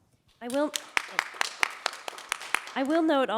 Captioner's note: audience clapping